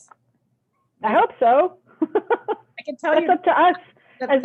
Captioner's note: laughs